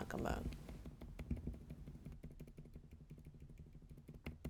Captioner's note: light keyboard tapping